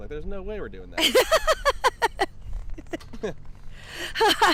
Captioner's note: laughs